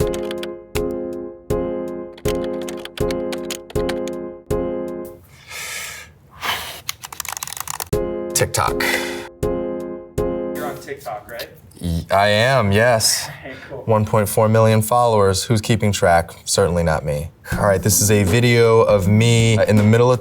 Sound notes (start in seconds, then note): 0.0 soft music; 5.2 breathes deeply